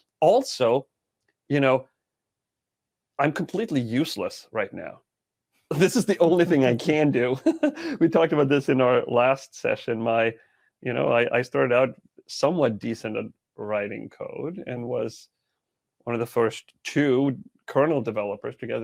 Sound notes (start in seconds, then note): 5.7 chuckling; 5.7 laughing